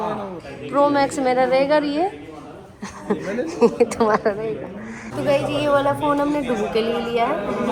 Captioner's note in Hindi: हंसी